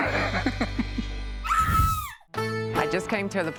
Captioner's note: scream